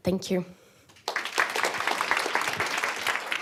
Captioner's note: applause